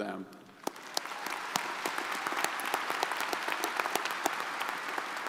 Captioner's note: crowd applauding